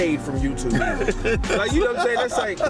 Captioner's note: laughs